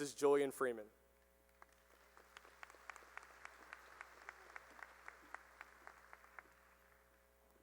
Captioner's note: applause